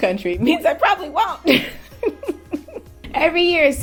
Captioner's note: laughs